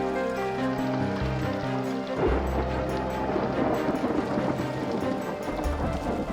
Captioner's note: thunder